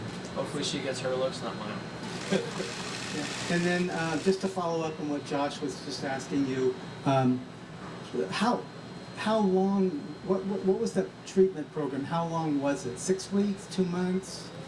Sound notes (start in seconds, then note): 2.1 laughs